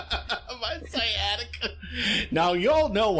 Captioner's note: a very long laugh